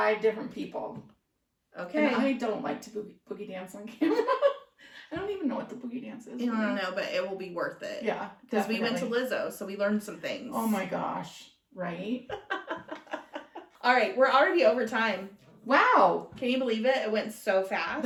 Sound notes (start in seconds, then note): 12.2 laughter